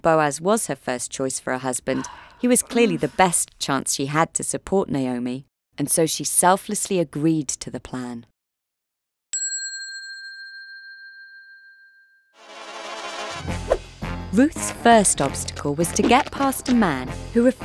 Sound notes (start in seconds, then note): 9.4 bell dinging; 12.8 secret agent music